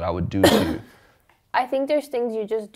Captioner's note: coughs